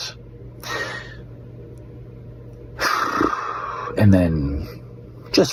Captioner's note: sighs in existential crisis